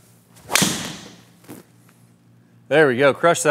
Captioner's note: golf ball bangs